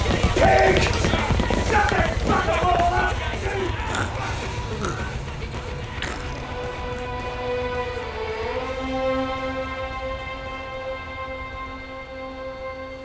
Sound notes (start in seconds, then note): 2.6 sounds of bikies being dragged away by police